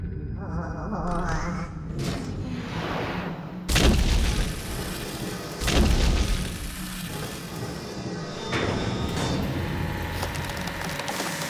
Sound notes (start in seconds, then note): 0.1 shuddering; 8.1 machinery whining